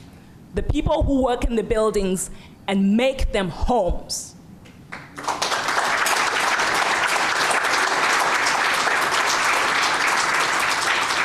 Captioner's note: applause